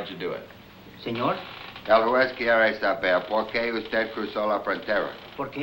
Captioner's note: speaking in foreign language